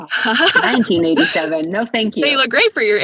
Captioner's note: laughs